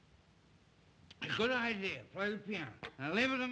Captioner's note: slurring words